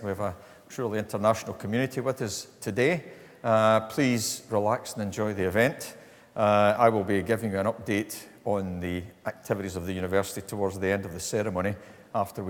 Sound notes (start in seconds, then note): none